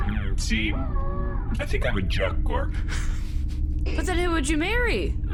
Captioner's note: Pleck laughs quietly